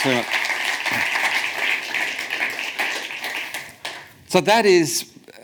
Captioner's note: audience applauds